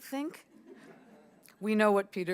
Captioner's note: audience chuckling